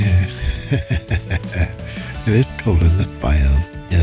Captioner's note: laughs